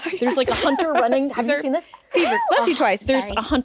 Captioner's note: sneezes